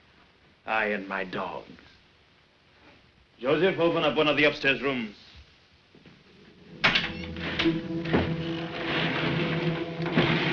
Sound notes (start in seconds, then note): 6.6 door opens